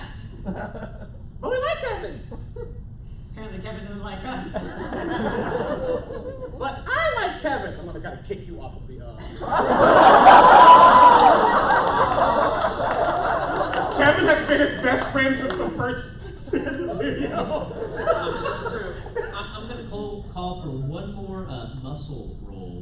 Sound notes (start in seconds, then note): 9.5 laughter